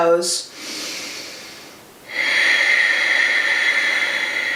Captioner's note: breathes deeply